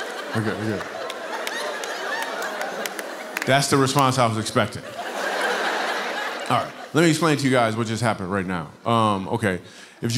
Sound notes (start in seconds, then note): 4.6 laughter